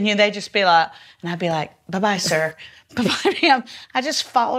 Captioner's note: laughs